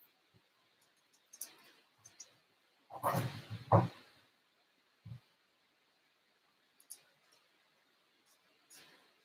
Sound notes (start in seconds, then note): 4.1 mysterious thudding